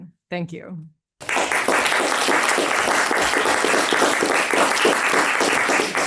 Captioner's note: attendees applauding